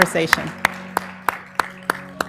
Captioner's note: applause